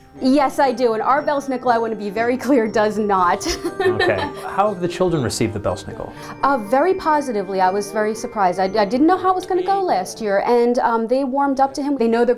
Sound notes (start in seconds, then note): 3.4 laughter